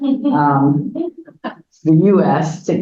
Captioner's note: audience laughs